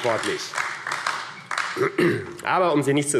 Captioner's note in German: Beifall AfD